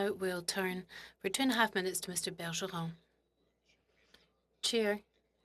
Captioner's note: speaking French